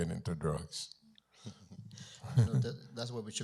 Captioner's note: chuckles